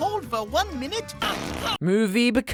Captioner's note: flatulence